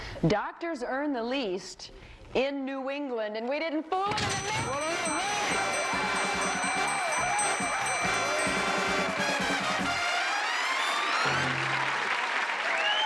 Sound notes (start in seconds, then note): 6.2 bell dinging; 8.7 exciting music